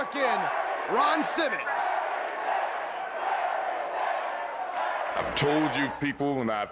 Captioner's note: crowd chatter